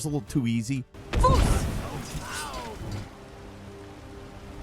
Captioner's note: swords clanking